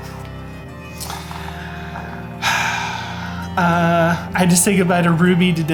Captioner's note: sighing